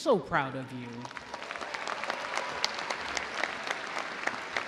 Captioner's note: audience applauding